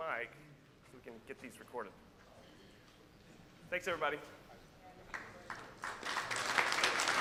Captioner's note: applause